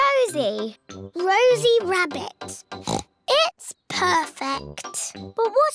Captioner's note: oinks